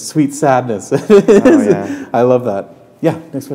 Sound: laughter

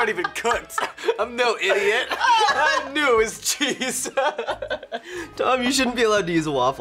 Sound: laughs

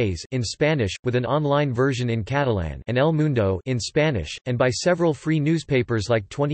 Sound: in Spanish

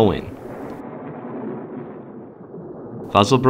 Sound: rolling thunder continues

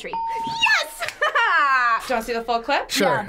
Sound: bell rings; laughs

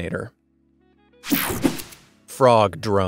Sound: digital buzzing

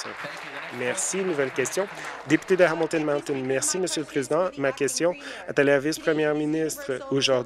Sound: some Applause

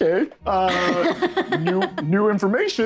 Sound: Isabella laughs

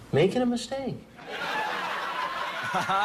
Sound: canned laughter

